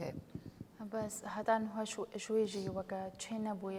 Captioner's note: speaking kurdish